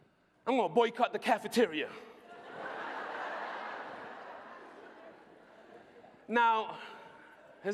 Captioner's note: laughter